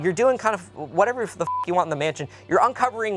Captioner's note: beep